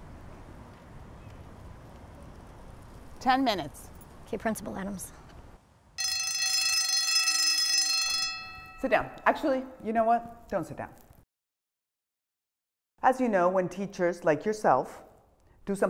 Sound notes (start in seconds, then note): 6.0 bell rings